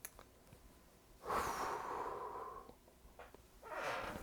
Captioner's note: sighs